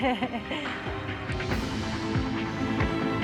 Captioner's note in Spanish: risas